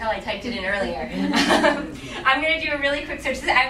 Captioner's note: laughing